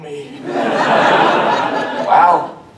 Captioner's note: audience laughter